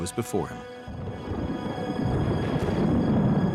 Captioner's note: thunder crashing